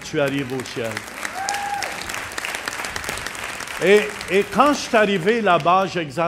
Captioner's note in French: applaudissements